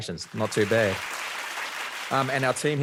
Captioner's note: audience clapping